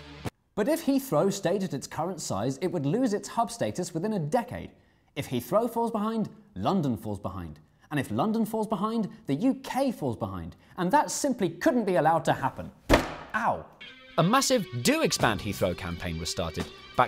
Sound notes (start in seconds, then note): none